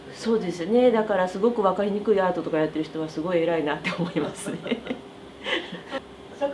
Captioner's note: laughs